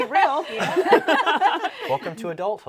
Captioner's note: panelists laughing